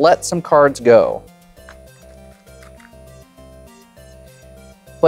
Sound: cards riffling

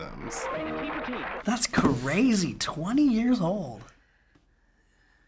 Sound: voice-over

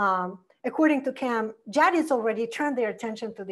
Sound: foreign language

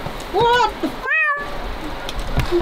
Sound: cat meows; chuckles

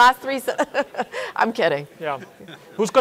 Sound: chuckles

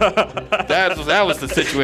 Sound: laughing

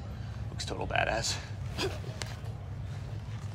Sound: choking

